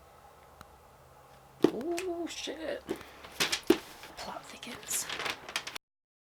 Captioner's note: thump